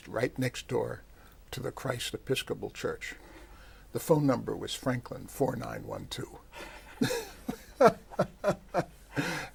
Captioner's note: laughter